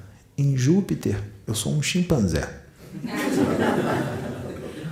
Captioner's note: laughs